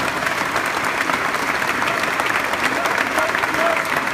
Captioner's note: applause, and the people shout "Independence!"